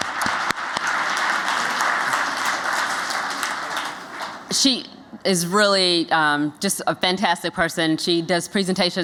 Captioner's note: �applause�